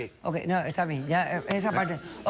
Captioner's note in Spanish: risas